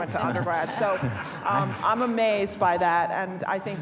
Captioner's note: audience laughing